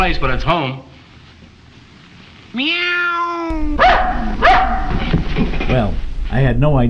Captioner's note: dog barks